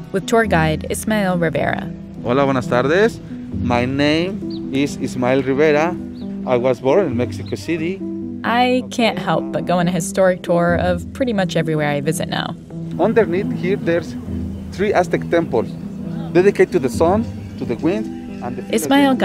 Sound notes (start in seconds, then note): 2.8 speaking Spanish